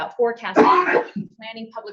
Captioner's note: attendee coughing